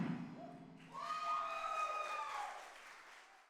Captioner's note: applause